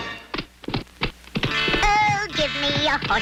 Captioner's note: horse galloping